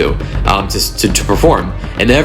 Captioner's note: none